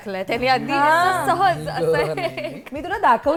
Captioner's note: chuckles